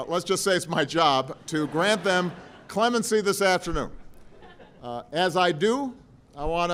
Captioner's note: laughter